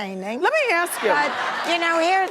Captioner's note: audience laughing